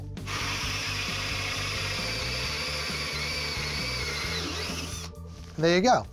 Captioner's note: drilling